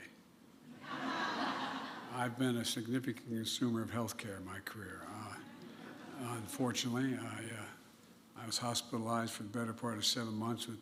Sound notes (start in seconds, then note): 0.7 laughter